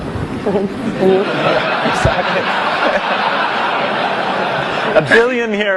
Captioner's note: laughter